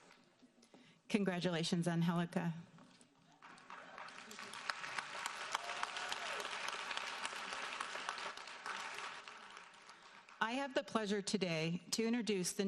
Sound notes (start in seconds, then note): 3.3 audience applauding